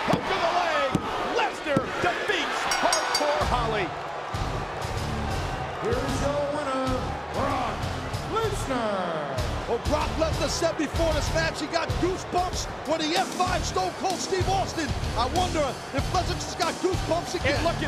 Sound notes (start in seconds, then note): 2.6 bell rings; 4.2 rock music